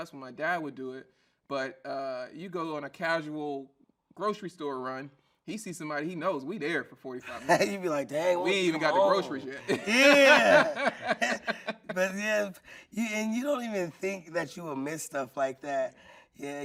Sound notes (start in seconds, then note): 11.6 laughing